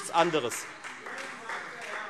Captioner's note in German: Beifall Freie Demokraten